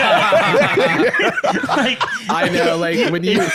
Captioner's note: all laughing